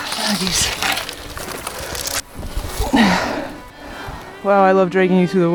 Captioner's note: grunting